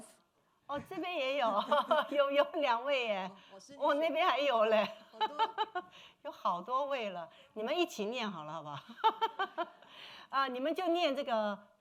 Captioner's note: speaking Mandarin